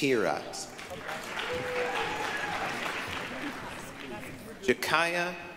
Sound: applause, cheering

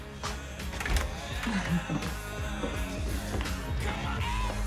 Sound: chuckles

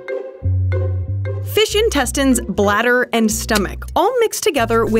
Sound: voiceover

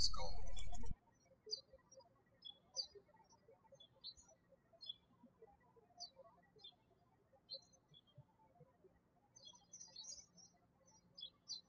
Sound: birds chirping

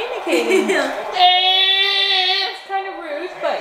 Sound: yell

